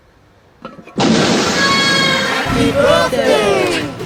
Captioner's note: woman shouting; explosion booming; both grunting; tense music